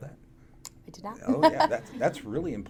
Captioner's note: laughs